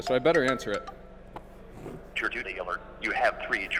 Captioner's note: on phone